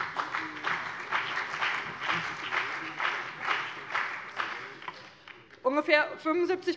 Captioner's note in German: Beifall bei dem BÜNDNIS 90/DIE GRÜNEN und der CDU